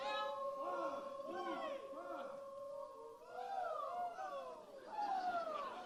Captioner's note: audience chants and vocalizes